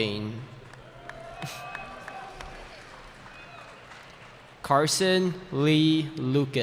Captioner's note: cheering